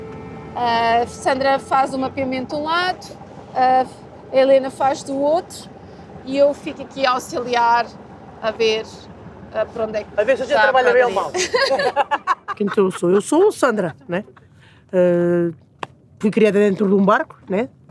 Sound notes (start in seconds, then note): 10.8 laughs